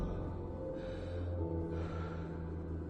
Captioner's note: hard breath